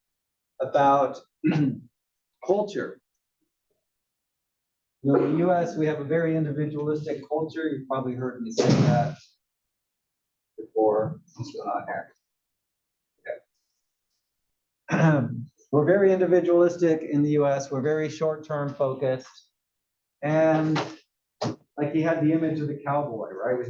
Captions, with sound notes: what he said about culture. In the US, we have a very individualistic culture. You've probably heard me say that before, since we're not here. [COUGH] We're very individualistic in the US. We're very short term focused and he had the image of the cowboy, right?